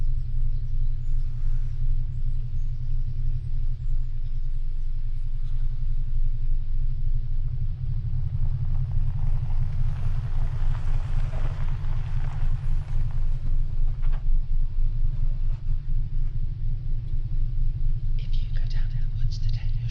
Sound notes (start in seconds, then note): 0.4 birds chirping; 8.5 car approaching